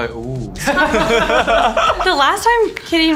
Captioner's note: cast laughs